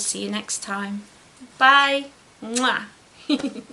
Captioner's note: giggles